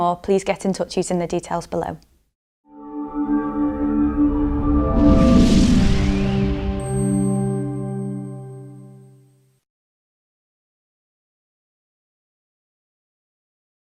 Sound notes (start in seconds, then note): 2.7 melodic sting; 2.8 bell dinging